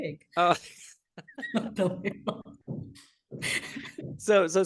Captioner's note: both laughing